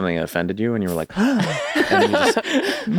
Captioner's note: gasps